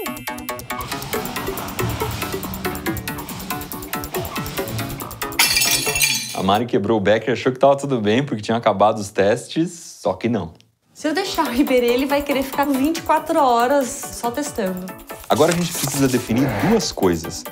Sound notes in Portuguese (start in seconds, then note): 0.0 música de fundo; 5.2 vidro quebrando